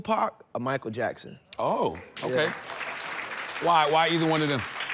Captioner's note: audience clapping